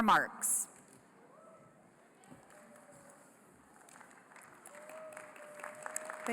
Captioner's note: applause